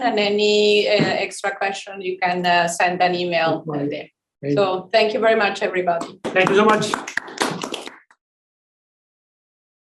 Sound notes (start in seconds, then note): 8.5 all clapping